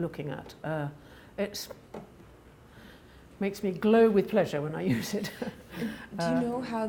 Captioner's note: chuckles